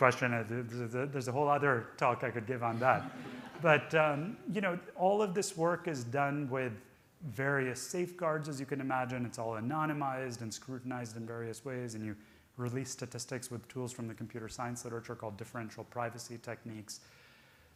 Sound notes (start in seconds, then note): 2.7 audience laughing